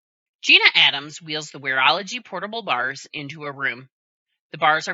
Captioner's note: voiceover